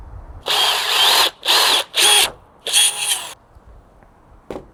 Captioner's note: drill whirring